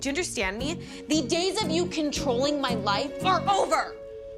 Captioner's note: none